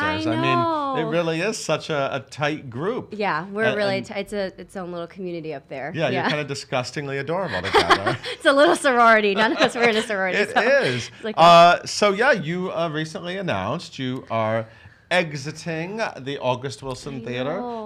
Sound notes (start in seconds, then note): 7.4 laughs